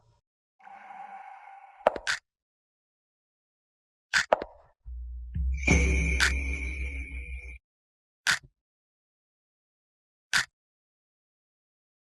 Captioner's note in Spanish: campana